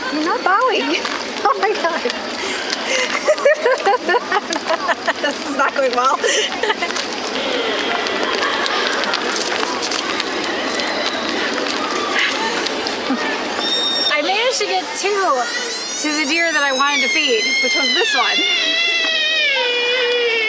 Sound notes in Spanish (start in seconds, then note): 3.3 riendo